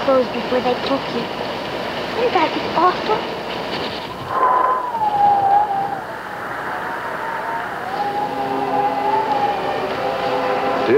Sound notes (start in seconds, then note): 3.7 wind howling; 7.7 pensive music